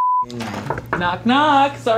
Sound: knocking on door

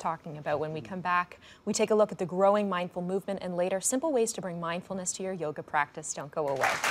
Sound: applause

